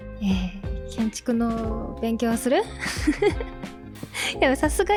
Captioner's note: laughs